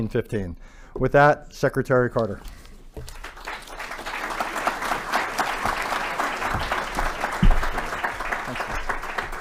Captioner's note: applause